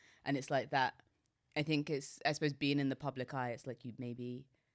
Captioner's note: none